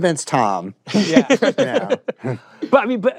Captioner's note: laughter